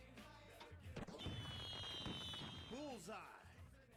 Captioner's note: fireworks popping